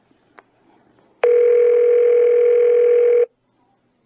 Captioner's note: phone rings